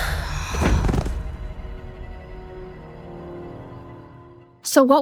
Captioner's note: body thudding